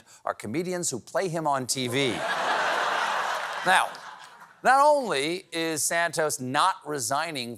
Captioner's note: laughter